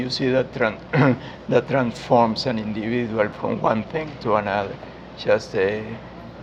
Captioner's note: cough